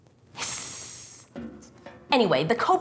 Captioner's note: hiss